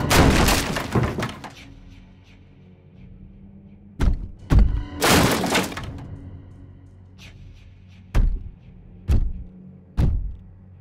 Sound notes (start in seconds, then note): 0.1 loud clattering; 5.0 smashing